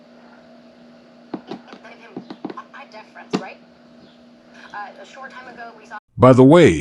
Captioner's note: continued background talking